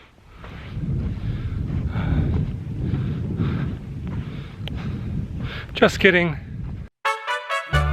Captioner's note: labored breathing